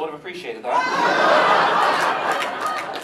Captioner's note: audience laughs